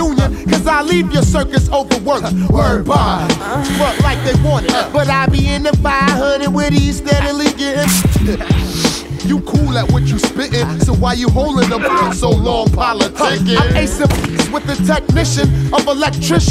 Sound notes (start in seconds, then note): 8.1 singer laughs; 8.4 exhales